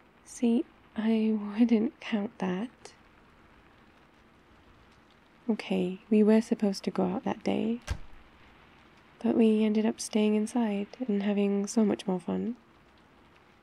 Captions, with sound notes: see, I wouldn't count that OK, we were supposed to go out that day *cupboard closes* but we ended up staying inside and having so much more fun